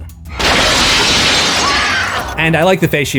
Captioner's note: screams